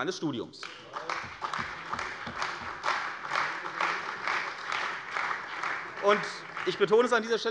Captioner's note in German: Beifall bei der CDU und dem BÜNDNIS 90/DIE GRÜNEN